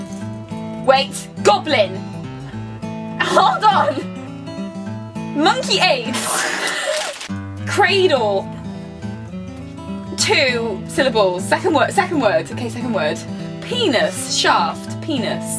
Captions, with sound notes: Wait Goblin? Hold on! Monkey aids (laughs) Cradle Two Syllables- second wo- second word Okay, second word Penis Shaft Penis